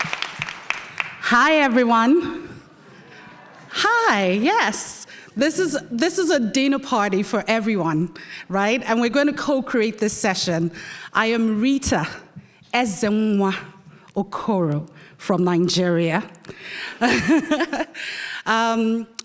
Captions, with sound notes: - Hi, everyone. - Hi. - Hi, yes, this is a dinner party for everyone, right? And we're gonna co-create this session. I am Rita Ezenwa-Okoro from Nigeria. (laughing)